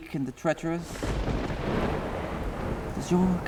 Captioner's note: thunder crashing